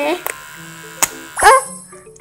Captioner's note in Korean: 위잉